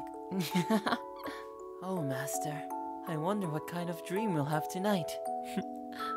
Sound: giggles; chuckles

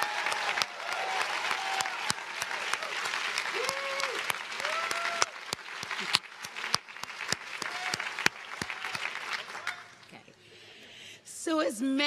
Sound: cheering

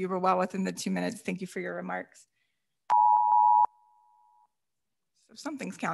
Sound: beeper beeping

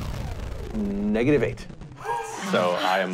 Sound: gasps

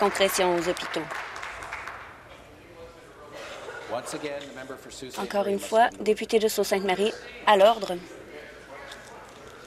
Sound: applause

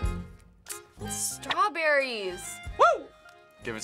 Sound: tsking

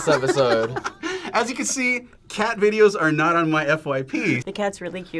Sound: laughs

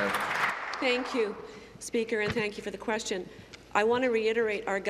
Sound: applause

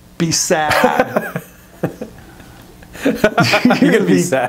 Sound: laughing

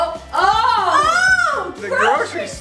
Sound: yelling

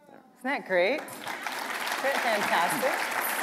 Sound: applause

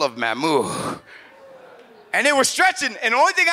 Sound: audience exclaims and laughs

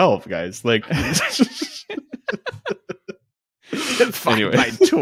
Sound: laughing

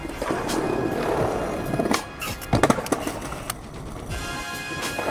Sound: skateboarding rolling

